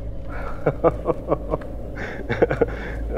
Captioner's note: Udayan laughs